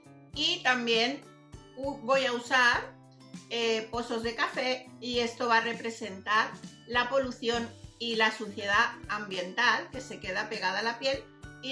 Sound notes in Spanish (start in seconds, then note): none